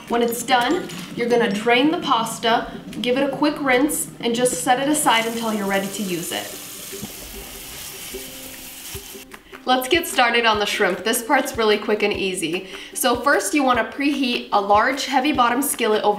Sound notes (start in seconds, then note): 7.7 sprayer running